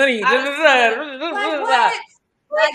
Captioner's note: mumbling